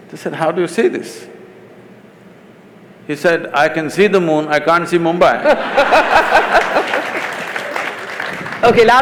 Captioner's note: laughter/Applause